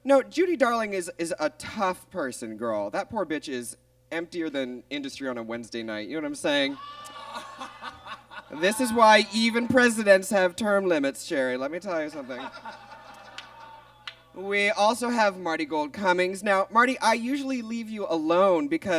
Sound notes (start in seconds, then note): 6.7 audience groans; 6.8 Bob laughs; 12.0 audience laughs